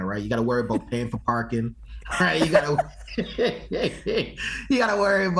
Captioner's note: laughs